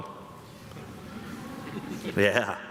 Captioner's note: graduates grumble